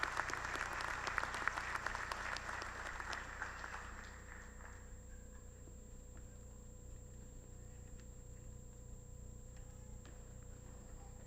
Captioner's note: applause